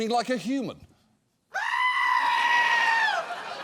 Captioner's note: screaming